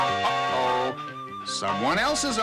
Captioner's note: train whistle